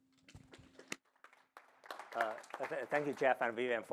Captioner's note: applause